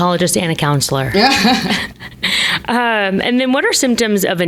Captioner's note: laughs